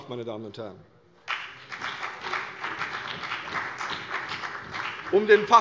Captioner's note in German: Beifall CDU und BÜNDNIS 90/DIE GRÜNEN